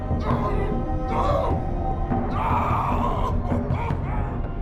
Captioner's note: yelling